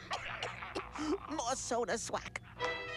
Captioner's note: coughing